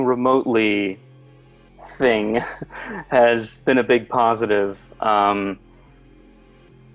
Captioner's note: laughs